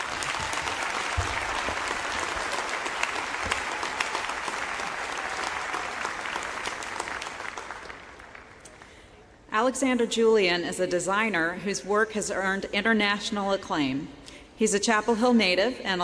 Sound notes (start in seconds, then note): 0.0 applause